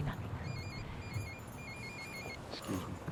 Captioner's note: phone ringing